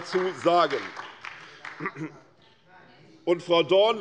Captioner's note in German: Beifall bei der SPD